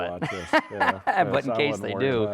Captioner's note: laughs